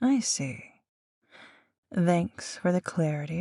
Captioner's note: none